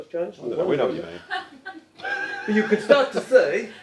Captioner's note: audience laugh